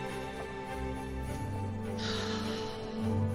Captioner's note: exhales deeply